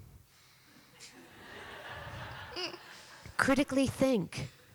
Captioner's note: laughter